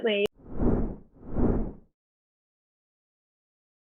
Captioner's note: logo whooshes